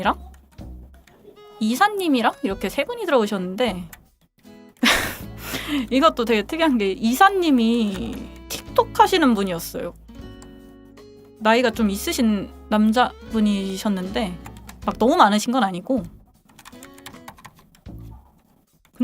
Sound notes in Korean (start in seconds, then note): 4.8 웃음